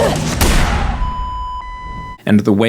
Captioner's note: combine death tone